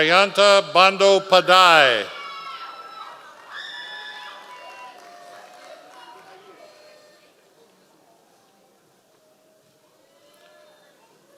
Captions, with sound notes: Jayanta Bando Padae. (audience applause)